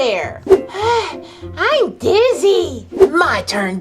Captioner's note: breathes loudly